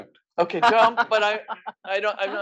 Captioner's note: laugh